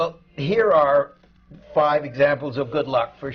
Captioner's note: none